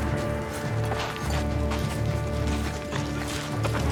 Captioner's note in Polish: odgłosy marszu